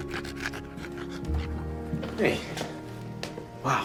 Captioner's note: dog pants